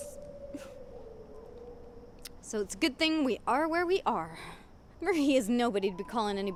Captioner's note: whimpers